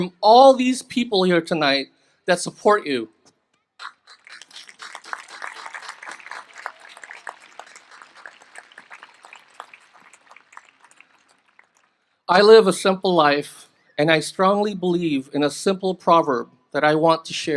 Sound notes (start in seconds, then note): 3.8 applause